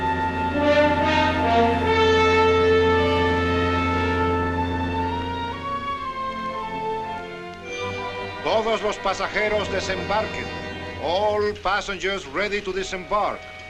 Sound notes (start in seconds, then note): 8.3 man speaking spanish